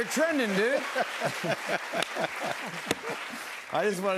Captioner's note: both laugh